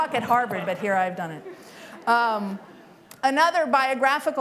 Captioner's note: laughter